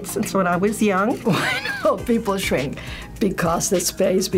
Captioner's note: laughs